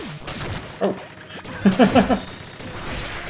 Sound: chuckles

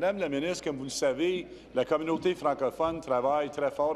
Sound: speaking in French

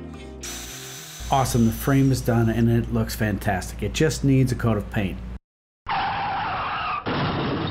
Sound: squealing tires, car crash

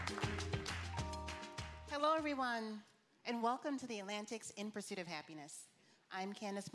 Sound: applause

